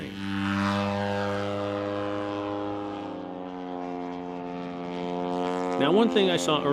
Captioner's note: engine propeller sounds